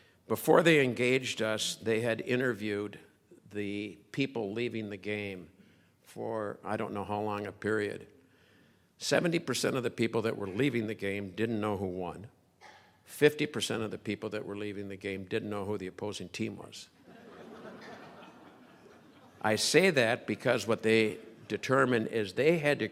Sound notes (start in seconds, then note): 17.0 crowd laughing